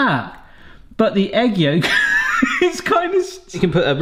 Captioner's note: laughs